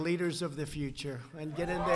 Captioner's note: applause